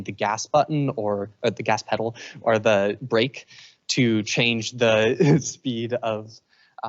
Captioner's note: chuckles